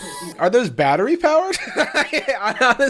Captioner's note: laughs